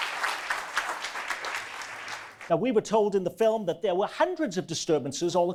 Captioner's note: audience applause